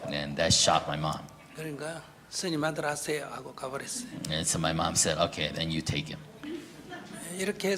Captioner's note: audience Laughter